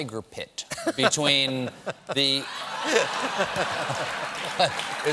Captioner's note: laughter